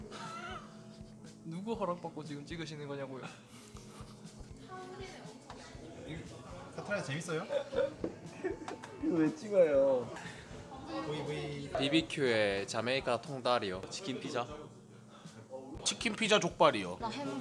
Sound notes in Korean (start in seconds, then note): 0.2 웃음; 3.1 웃음; 4.4 떠드는 소리; 7.3 웃음